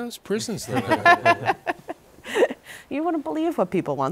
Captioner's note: laughter